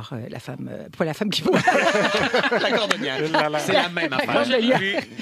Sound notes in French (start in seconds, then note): 1.4 rires